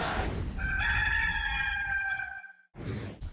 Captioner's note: electric swoosh; rooster crowing; swoosh